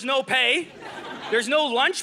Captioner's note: audience laughing